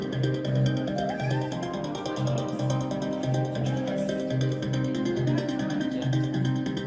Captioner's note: ambient crowd noise continues